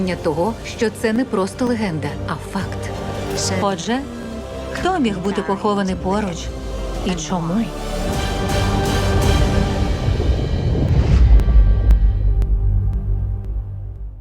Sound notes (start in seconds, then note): 8.0 dramatic crescendo; 9.4 thunder rumbles